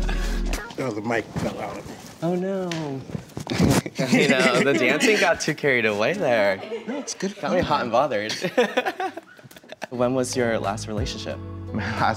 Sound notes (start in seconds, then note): 3.6 laughs; 8.2 giggles